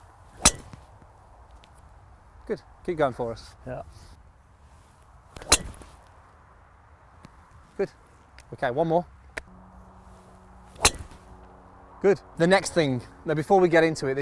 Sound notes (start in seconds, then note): 0.4 hitting Golf Ball; 5.4 hitting Golf Ball; 10.7 hitting Golf Ball